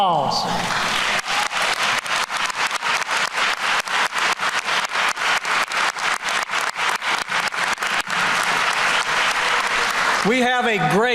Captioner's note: applause